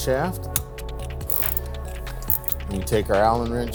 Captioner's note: wrench whirring